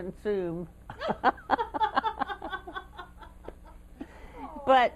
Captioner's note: laughter